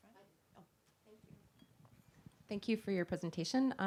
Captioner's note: voiceover